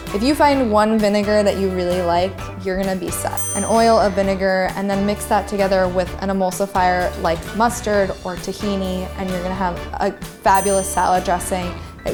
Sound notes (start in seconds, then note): 3.3 ding